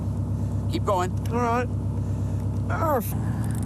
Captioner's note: groans